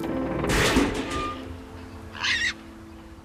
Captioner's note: squeals